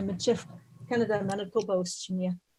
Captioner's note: murmur